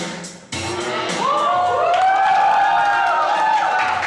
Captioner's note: all cheer